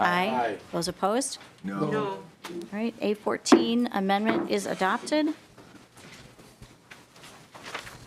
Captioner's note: chorus of ayes